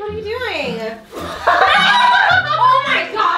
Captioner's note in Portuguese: ri maniacamente